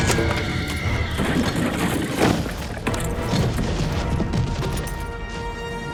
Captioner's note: horse neighs; dramatic music; pole crashes